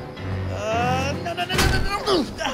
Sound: yelling

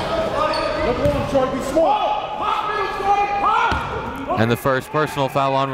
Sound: coaches and fans yelling; players and fans yelling

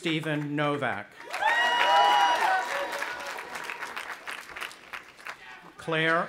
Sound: audience applauding and cheering

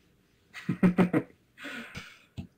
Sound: laughs

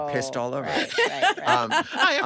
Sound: all laughing

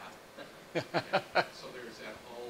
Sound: laughter

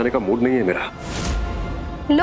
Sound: atmospheric sound

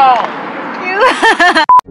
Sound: laughing

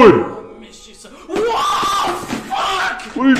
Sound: surprised/scared 39 sounds

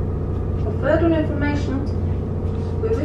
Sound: woman on the speaker in English

